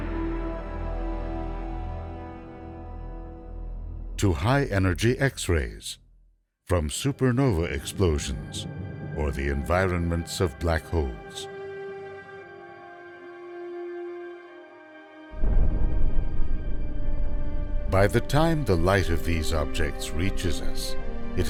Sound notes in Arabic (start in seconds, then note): 15.4 دوي الانفجار